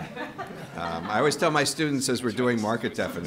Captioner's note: group laughter